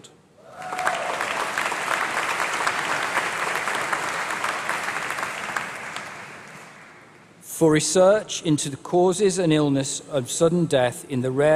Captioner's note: applause